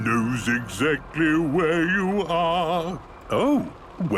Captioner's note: mimicking tune